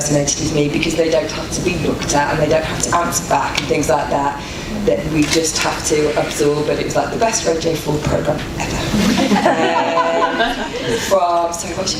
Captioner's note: audience laughter